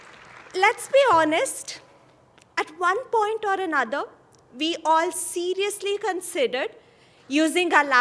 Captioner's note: applause